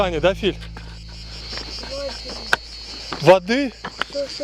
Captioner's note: murmuring